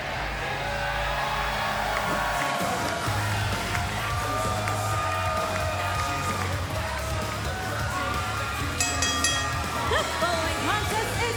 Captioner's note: cheers and applause; bell ringing